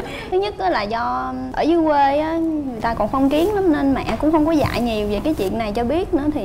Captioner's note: none